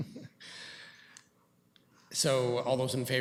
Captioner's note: chuckles